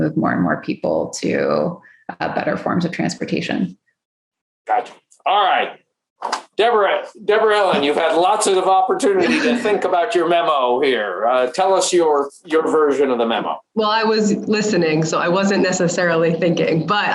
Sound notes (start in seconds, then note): 9.1 laughs